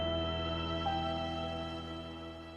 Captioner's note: high-pitched ring stops